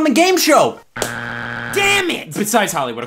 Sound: buzzer beeps

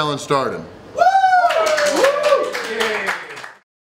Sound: crowd cheering

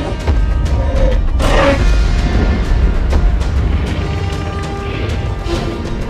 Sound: T-Rex Roars; stomping Sounds

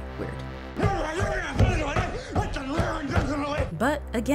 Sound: thumping

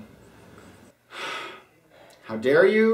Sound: sighs

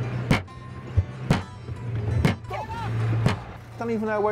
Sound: banging

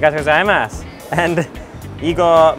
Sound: speaking in foreign language

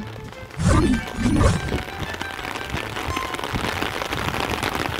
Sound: heavy rain fall

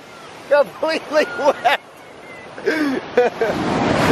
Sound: laughs

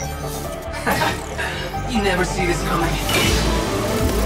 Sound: laughs

